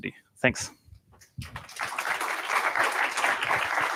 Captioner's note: applause